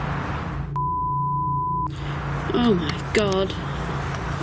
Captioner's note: beep